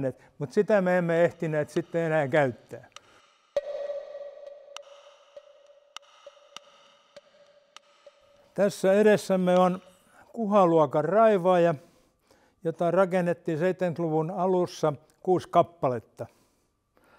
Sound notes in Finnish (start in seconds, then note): 3.5 Tikittävää ääntä